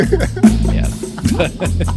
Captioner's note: laughing